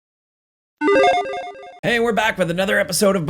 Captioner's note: upbeat sound effect